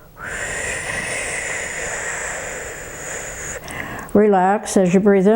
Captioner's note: breathing heavily